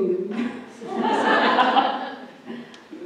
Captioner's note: laughter